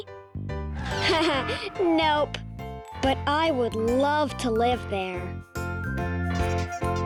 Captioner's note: laughs